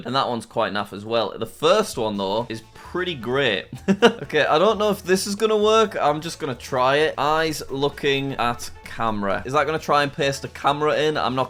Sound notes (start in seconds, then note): 3.8 laughs